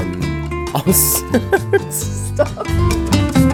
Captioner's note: laughing